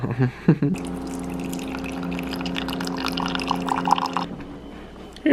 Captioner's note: coffee dripping